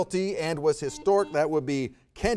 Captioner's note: buzzer beeps